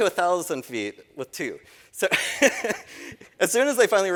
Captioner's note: laughing